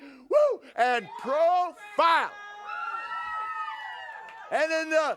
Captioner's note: audience cheers